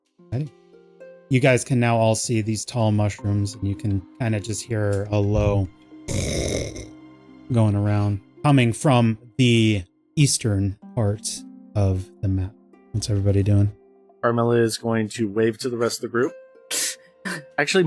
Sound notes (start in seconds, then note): 6.1 snarl